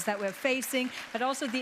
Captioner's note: audience applauds